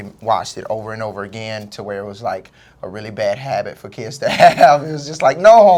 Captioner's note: laugh